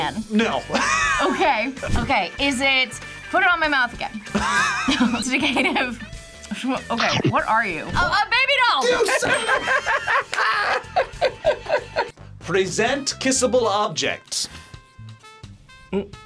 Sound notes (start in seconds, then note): 0.7 laughs; 4.3 React laughs; 4.3 laughs; 8.8 both laugh